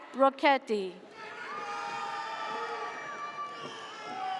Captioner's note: audience cheers